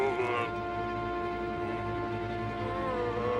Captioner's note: groaning